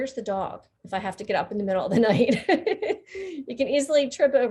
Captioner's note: laughing